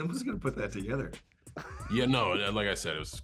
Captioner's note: laughs